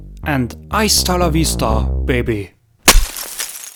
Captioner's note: in a very authentic Austro-Californian accent